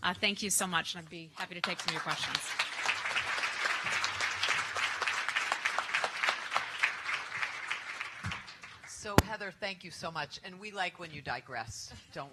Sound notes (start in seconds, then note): 3.2 applause